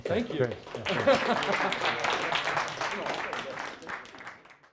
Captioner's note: applause